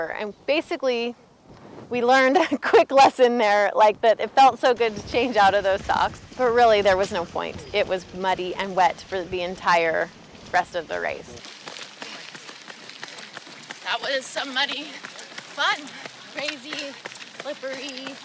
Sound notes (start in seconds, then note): 11.9 heavy breathing and panting